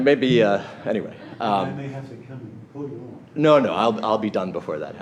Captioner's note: voiceover